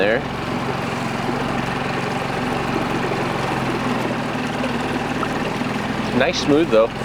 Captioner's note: engine rumbling; water trickling